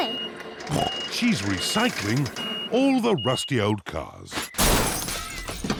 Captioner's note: snorts